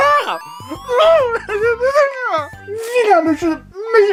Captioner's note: sobs